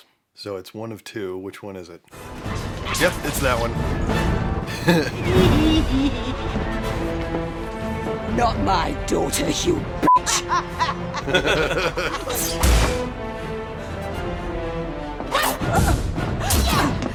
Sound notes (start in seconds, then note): 4.6 Bellatrix Lestrange's deranged laughs